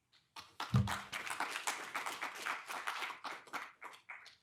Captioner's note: audience applauding